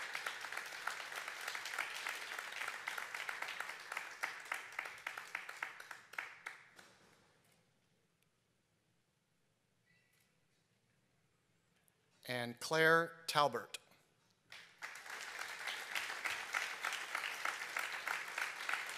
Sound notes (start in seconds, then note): 14.5 applause